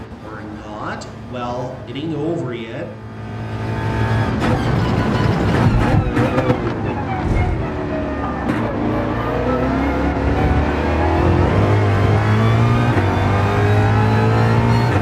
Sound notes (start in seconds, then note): 0.0 engines revving, cars noises; 3.9 engines revving, cars noises